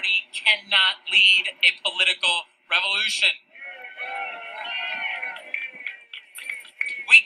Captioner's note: applause/CHEERS!